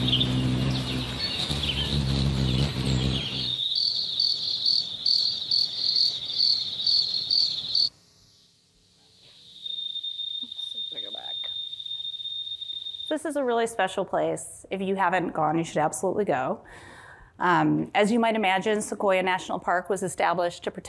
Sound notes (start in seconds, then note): 4.2 birds chirping